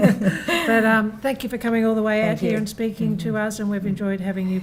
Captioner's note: laughs